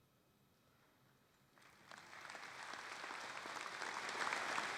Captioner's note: applause